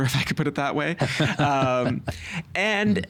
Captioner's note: laughing